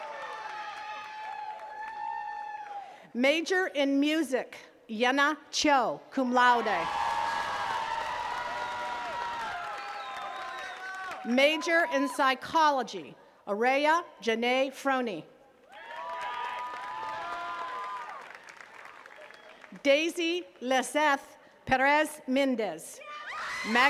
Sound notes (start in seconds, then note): 0.0 attendees cheering and clapping; 6.6 attendees cheering and clapping; 15.6 attendees cheering and clapping